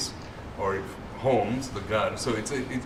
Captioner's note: non-english